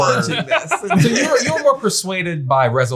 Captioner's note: all laugh